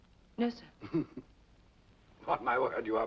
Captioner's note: Rochester chuckles